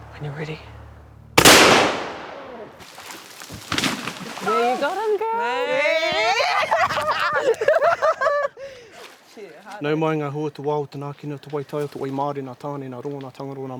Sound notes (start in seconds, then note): 1.4 gun shot; 3.3 animal falling; 9.6 male speaking te reo Māori